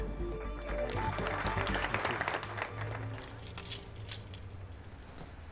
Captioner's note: participants applaud